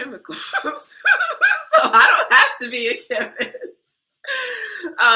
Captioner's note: laughter